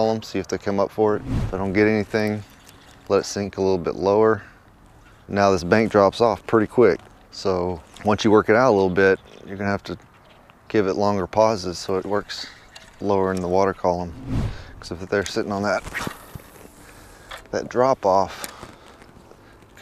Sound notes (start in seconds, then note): 16.2 fishing line throwing